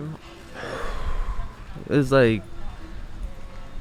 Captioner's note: exhaling deeply